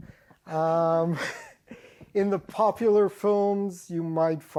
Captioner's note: laughs